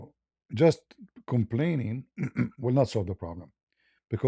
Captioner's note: berdehem